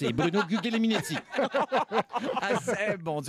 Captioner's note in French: rires